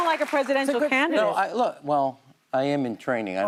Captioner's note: applause